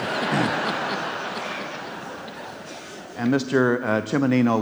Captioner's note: audience laughs